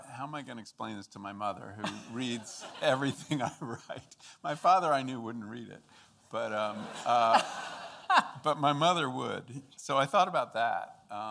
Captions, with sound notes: how am I gonna explain this to my mother who reads everything I write? My father I knew wouldn't read it- (audience laughing) but my mother would. So I thought about that,